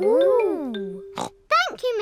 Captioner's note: snorts